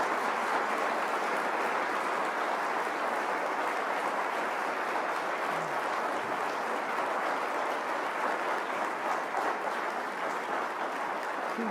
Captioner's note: applause